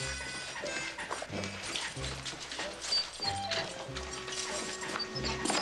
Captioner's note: armor rattling and squeaking